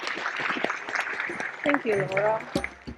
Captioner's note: audience applauding